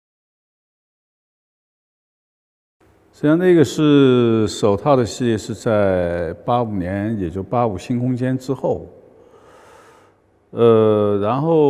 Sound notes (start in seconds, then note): 3.9 Mandarin